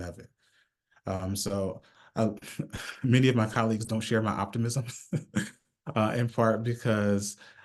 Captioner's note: chuckles